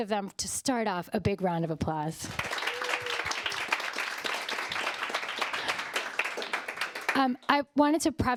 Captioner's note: applause